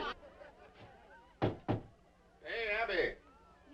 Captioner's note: door knocking